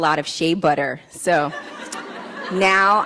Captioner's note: laughs